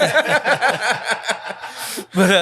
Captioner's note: laughing